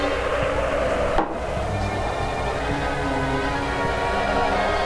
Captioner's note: eerie music; wind howling